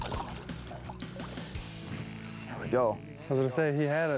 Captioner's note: water splashes